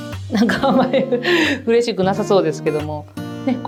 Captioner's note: laughs